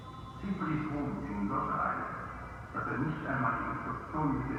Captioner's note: man speaking French